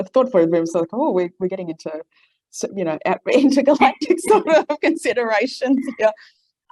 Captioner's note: laughs